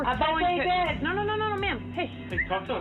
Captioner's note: whistles